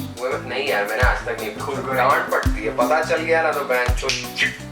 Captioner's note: phiissshh